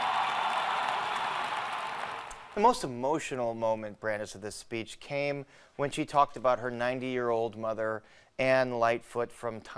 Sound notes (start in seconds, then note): 2.4 cheering; 2.8 applause